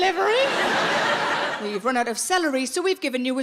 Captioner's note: audience laughs